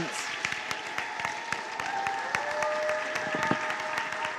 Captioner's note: applause and cheers